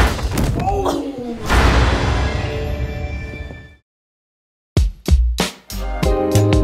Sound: door slams; body thuds; kids groan

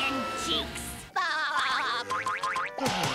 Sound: laughing

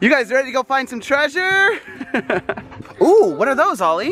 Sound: laughs

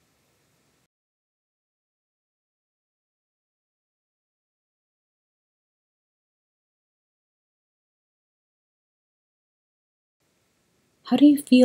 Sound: silence

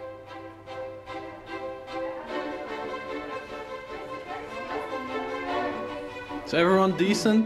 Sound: uptempo String Music; soft background chatter

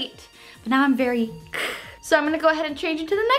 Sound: hissing

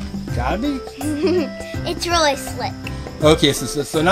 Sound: laughs

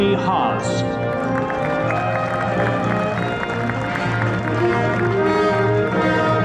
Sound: applause

